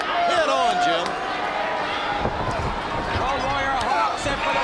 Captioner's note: crowd chatter